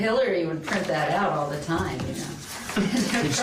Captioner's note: laughter